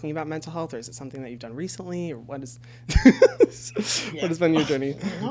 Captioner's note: laughs